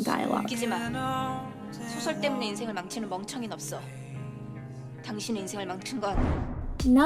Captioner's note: mid-tempo sensual music; speaks in Korean